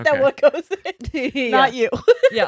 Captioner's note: laughing